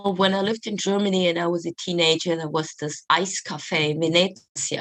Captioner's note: Italian